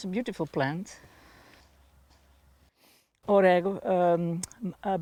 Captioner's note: speaking foreign language